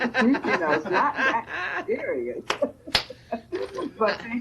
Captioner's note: panel laughing